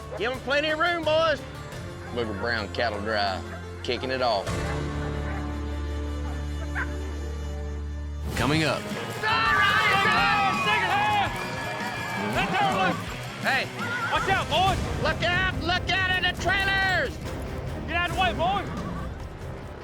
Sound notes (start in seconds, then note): 4.5 dogs barking; 9.0 cheering